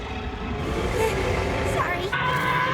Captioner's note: growls